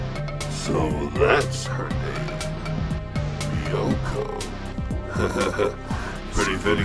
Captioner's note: chuckles